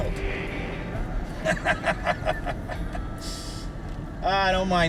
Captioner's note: laughing